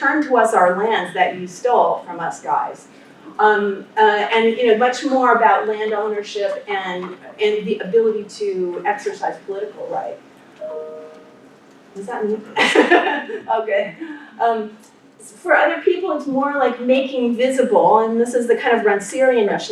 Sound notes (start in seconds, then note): 10.6 computer sound